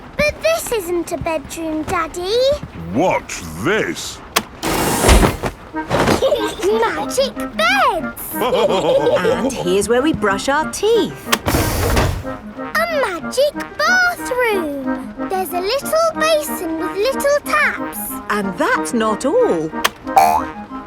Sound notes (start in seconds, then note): 6.1 laughing; 8.3 all laughing